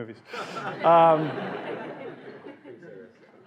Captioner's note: laughing